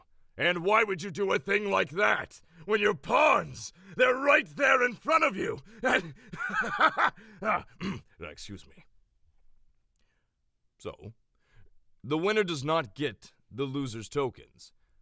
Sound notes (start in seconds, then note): 5.8 laughs maniacally; 7.7 clears throat